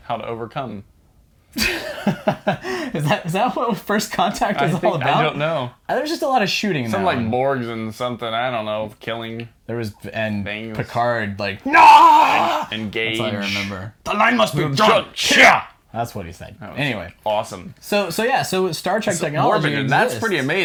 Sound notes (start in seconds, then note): 1.6 laughing; 11.6 makes Tommy Gun noise as he screams